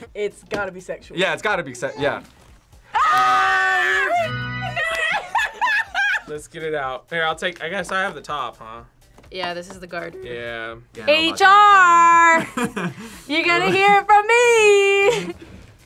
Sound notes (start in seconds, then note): 2.9 both yell; 4.7 laughs; 13.4 laughs